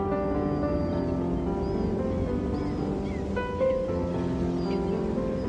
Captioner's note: sea gulls calling